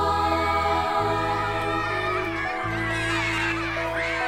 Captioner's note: children cheering; gentle music